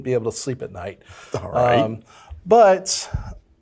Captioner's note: laughs